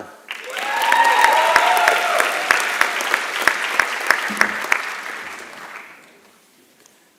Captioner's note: applause and Cheering